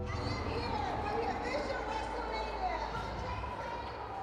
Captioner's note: dramatic music; crowd chattering